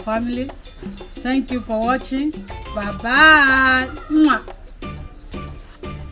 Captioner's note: kisses